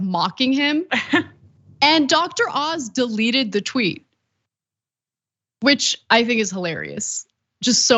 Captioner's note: laugh